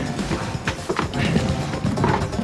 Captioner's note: panting